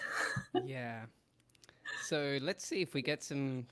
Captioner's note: laughing